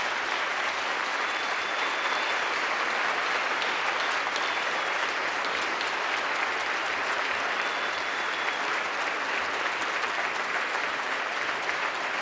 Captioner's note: applause